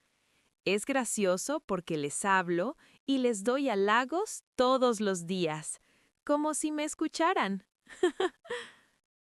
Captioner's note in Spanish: risas